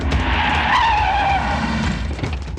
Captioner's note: tire Screeching